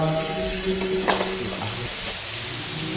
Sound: footsteps stop; fountain splashing

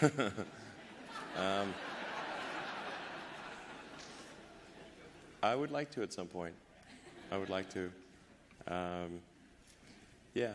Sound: laughter

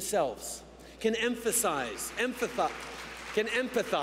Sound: applause

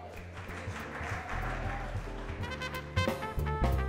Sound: crowd applauding; slow saxophone music

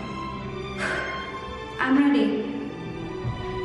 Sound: sigh

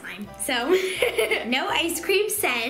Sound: laughing

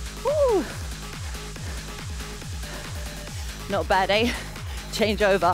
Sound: exclaiming

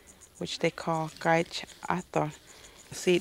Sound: speaks native language

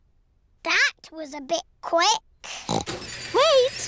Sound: oinks

